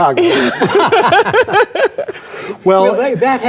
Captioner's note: laughing